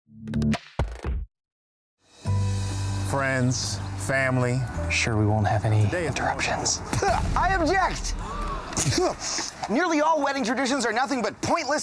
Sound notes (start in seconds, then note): 6.6 spits; 8.1 crowd gasping; 8.7 Adam spits